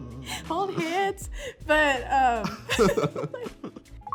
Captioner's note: laughs